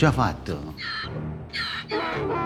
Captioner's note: Donkey's bray